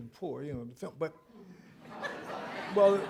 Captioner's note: laughter